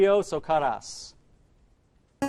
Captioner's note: answer bell